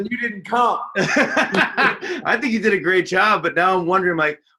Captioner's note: laughs